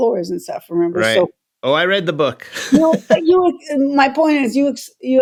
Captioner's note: laughter